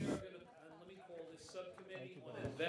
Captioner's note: people talking in background